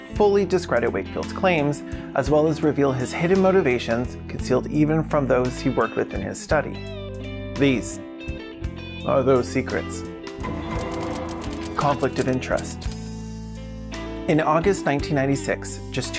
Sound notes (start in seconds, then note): 9.2 Law and order voice